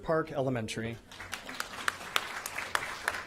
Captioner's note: applause